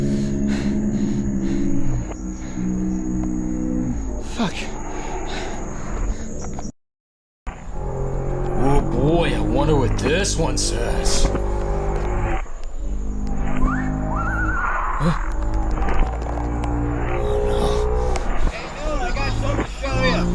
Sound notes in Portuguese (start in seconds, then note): 0.0 Ofegante; 4.9 Ofegante; 6.7 Silêncio; 8.7 sarcasticamente; 13.5 Um apito penetrante soa à distância